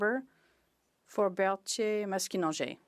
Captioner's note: speaking French